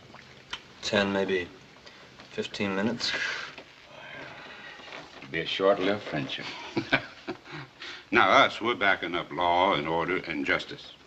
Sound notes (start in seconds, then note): 3.8 sighs; 6.4 laughs